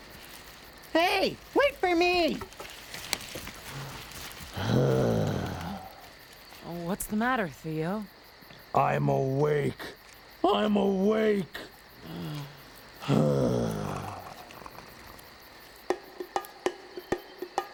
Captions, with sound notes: HEY, WAIT FOR ME! ( groans ) OH, WHAT'S THE MATTER, THEO? I'M AWAKE... I'M AWAKE. OH. ( groaning )